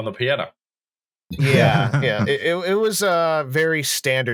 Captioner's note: laughter